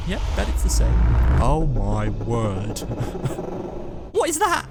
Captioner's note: laugh of sad realisation